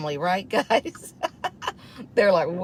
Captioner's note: chuckles